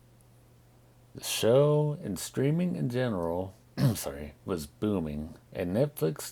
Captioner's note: clears throat